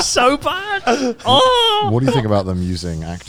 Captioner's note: wails